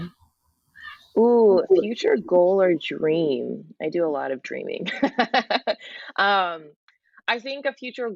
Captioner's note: laughs